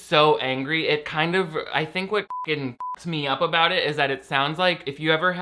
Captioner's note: beeps